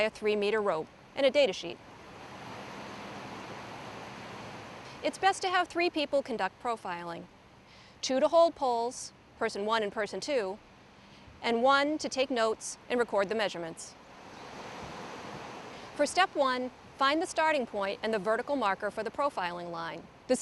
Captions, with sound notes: three meter rope and a datasheet. [waves] It's best to have three people conduct profiling, two to hold poles...person one and person two...and one to take notes and record the measurements. For step one, find the starting point and the vertical marker for the profiling line.